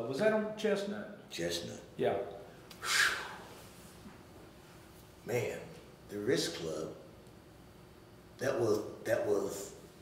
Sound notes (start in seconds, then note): 2.7 exhaling